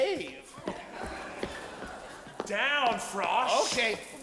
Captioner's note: audience chuckling